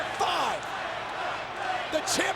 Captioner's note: audience cheering and clapping